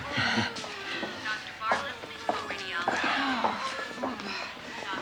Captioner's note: over pa system